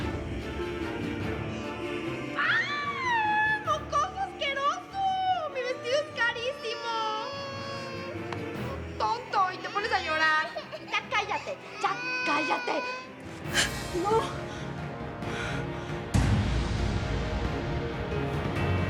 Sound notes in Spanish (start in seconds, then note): 8.7 LLanto del bebé